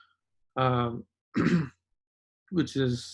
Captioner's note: clears throat